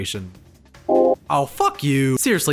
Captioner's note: citation sound